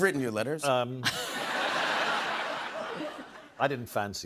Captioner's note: laughter